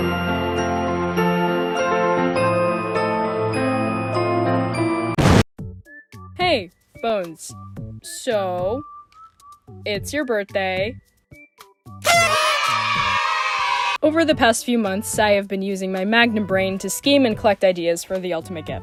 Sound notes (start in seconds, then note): 5.2 explosion; 12.0 confetti pop and children cheering